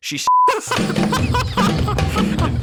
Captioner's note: laugh